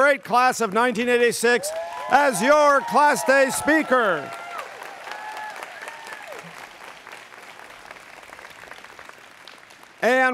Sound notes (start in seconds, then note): 5.3 students cheering